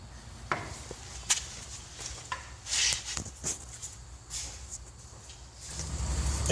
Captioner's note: feet shuffling